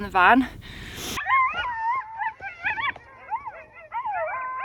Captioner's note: coyotes howling